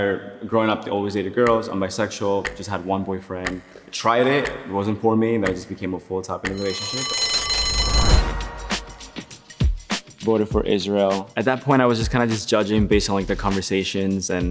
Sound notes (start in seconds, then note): 2.4 clock ticking; 6.5 bell ringing; 8.4 upbeat hip hop music